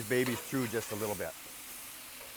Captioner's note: chicken sizzles